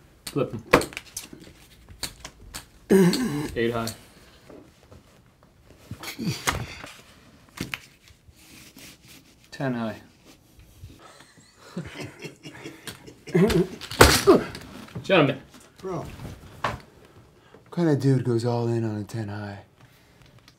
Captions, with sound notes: Flip 'em. [sighs] 8 high 10 high [laughter] [Card player bangs Eds hand on the table] Gentlemen! What kind of dude goes all in on a 10 high?